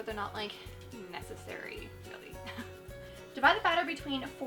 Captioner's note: chuckles